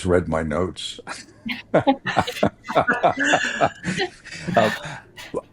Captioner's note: multiple people laugh